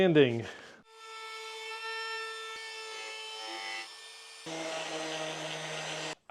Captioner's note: tool Sounds